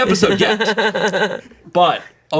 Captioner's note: laughs